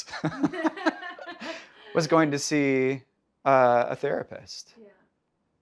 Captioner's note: laughing